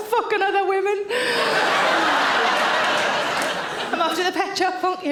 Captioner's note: audience laughing